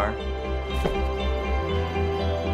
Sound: door shutting

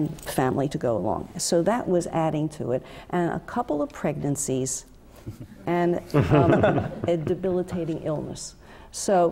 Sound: laugh

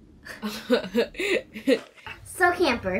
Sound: laughing

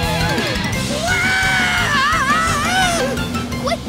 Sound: screaming

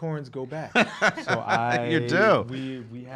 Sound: laughing

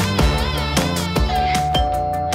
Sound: doorbell

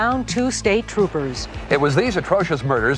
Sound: gun firing

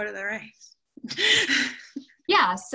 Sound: laughter

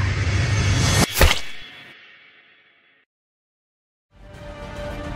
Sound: squishing

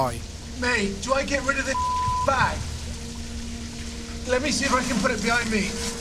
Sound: beep

